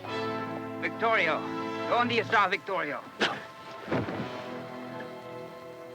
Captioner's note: speaks Spanish